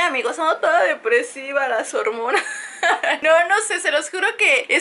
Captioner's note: laughs